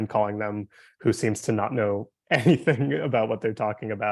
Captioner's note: chuckling